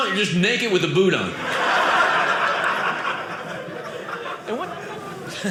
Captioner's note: audience laughing